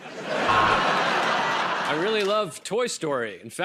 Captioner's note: laughter and applause